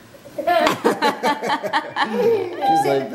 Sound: family laughs

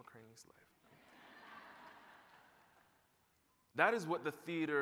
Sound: laughter

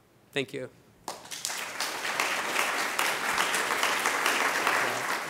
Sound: applause

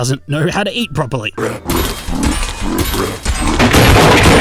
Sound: scary munch. scary crunch

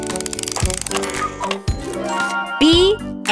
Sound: turning sound; cuckoo clock

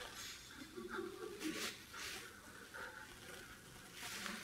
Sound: audience laughing

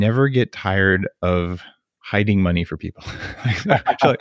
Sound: laughs

